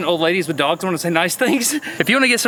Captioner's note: laughs